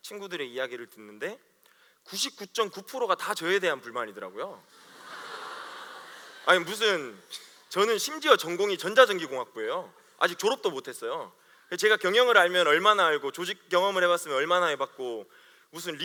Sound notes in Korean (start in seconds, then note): 4.7 웃음